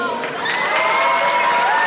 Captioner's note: cheers and Applause